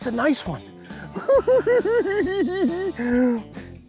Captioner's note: giggling